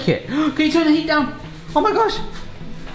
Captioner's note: gasps